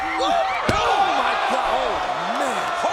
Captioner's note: body thuds